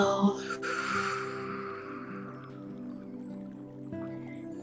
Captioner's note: exhales